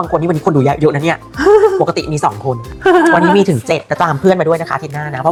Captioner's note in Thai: เสียงหัวเราะ